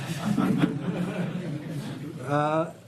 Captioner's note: laughter